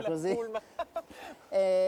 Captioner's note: laughter